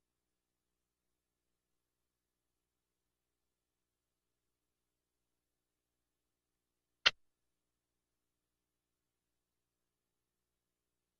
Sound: silence

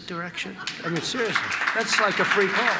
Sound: applause

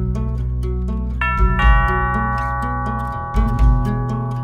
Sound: doorbell ringing

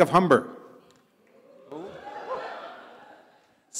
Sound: audience cheers

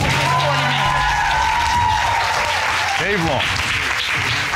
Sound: audience cheers, applauds

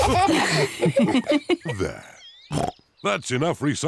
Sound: snorts

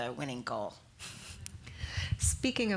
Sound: chuckling

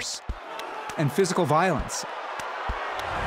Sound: crowd roars

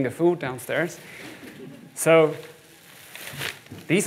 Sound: audience laughs

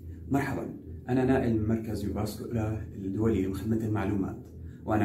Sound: Arabic

